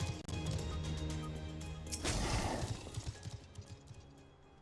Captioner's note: gun fires